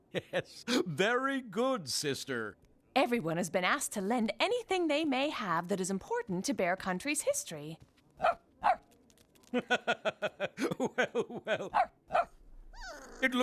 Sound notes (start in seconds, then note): 0.0 chuckling; 8.2 barking; 9.5 laughing